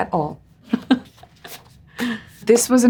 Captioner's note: Priyanka laughs